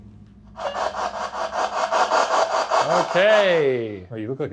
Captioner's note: spirit box blaring